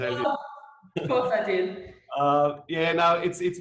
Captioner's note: laughs